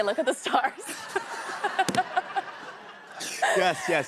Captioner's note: laughter